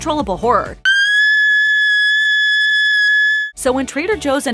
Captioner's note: screaming